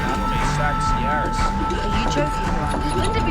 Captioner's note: voiceover